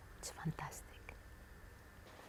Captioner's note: whispering